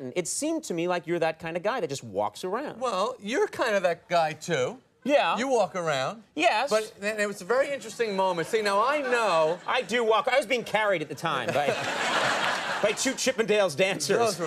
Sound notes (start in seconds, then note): 7.6 audience titters; 11.4 Jerry and audience laugh